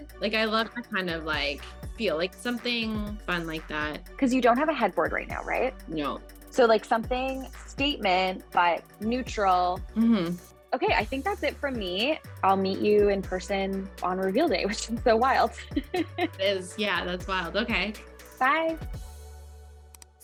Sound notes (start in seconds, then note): 15.6 laughs